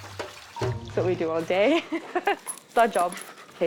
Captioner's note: laughs